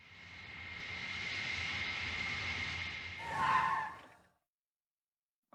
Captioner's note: plane engine roaring